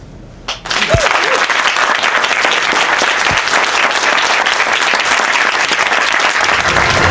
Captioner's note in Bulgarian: Аплодисменти